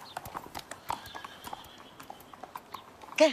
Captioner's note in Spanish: Ruidos de los cascos de los caballos